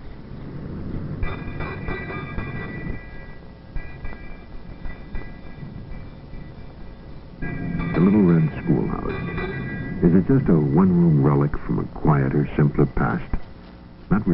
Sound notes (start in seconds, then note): 1.2 bell Ringing